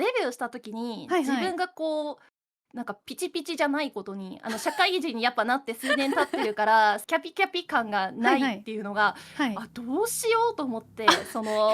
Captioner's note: laughs